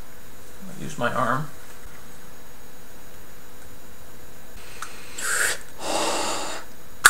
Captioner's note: inhales, exhales sharply. snap!